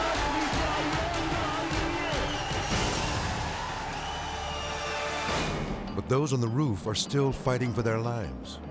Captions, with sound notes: (crowd whistling) But those on the roof are still fighting for their lives.